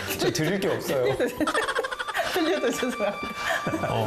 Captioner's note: hahahahaha